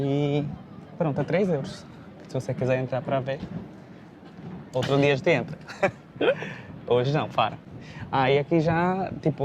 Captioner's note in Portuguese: risadas